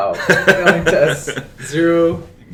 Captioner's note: laughs